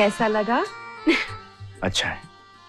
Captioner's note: chuckles